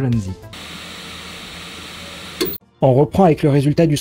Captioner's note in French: Bruit de machine à fond